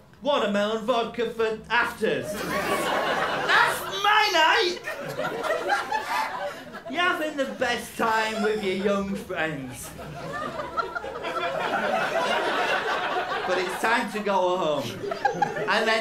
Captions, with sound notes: Watermelon vodka for afters. That's my night! (LAUGHTER) You're having the best time with your young friends. (LAUGHTER) But it's time to go home.